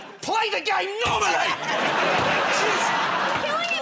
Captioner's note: laughter